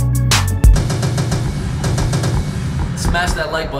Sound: gun shots

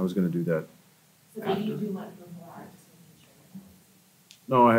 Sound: faintly speaking

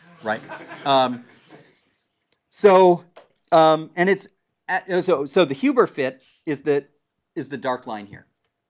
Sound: laugh

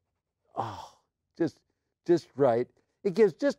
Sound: sighs

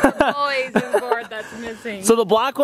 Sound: laughing

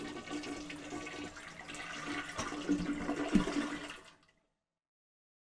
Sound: toilet flushing; water sloshing

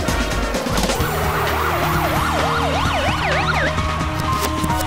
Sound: crowd cheering

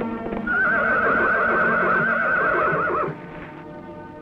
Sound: horse neighs

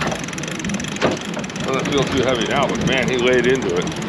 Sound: reel cranking

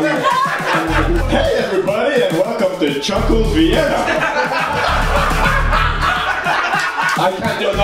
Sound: obnoxious laugh

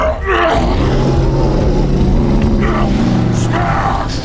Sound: grunts; roars

